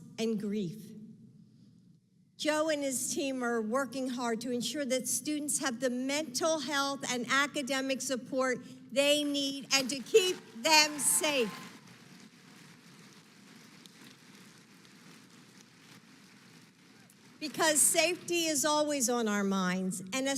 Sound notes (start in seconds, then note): 12.1 applause